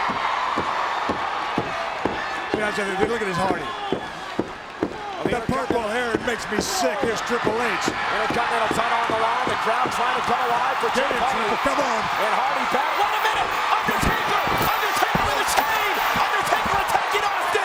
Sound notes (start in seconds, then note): 0.1 crowd cheering; 8.1 presenter speaking faintly off mic; 10.2 crowd cheering